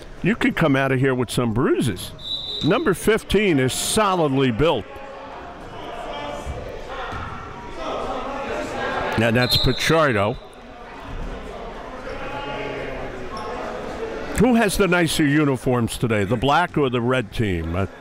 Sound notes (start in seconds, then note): 2.2 whistle blows; 5.8 crowds bustling; 5.8 whistle blows